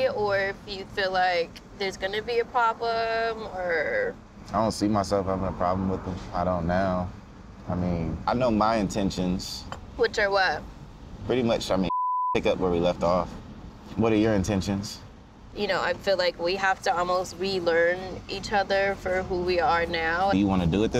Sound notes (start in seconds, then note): 11.8 beep